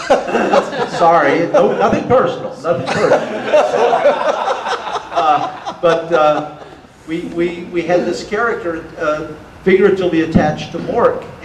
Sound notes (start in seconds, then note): 1.0 audience laughter; 2.9 audience laughter